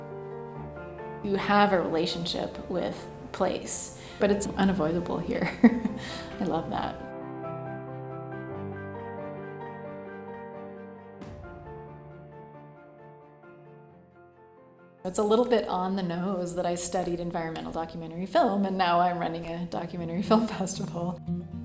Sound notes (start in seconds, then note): 5.4 laugh; 7.8 piano music